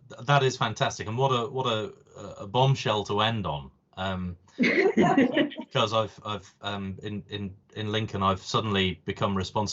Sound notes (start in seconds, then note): 4.6 laughter